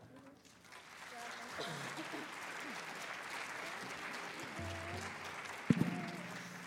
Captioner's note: applause